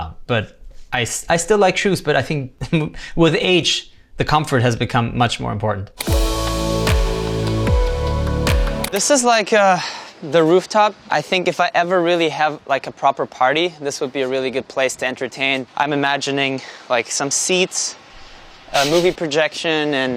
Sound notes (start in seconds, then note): 6.0 light music; 9.0 button clicking; 18.9 laughing